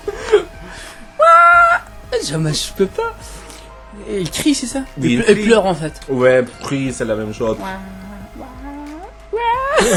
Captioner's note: shouts